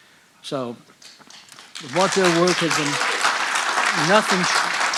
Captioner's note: audience applauding